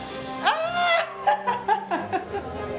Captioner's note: laughs